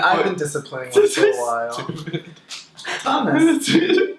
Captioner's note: laughs